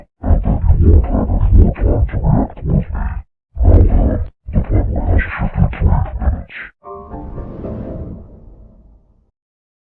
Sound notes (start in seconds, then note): 6.9 Anti Killer Windows XP Shutdown Sound